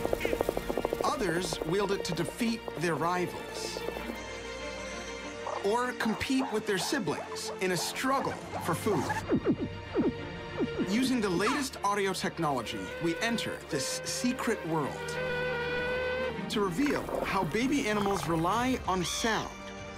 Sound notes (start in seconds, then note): 14.8 bee buzzing